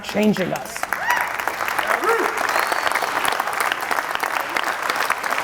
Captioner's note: audience cheering and applauding